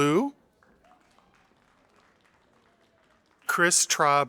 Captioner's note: audience applauding